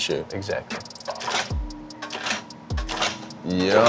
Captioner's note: machine rattling